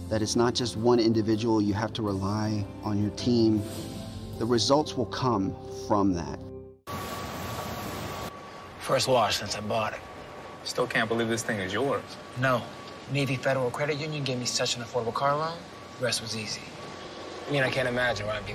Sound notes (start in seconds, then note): 8.1 car wash noises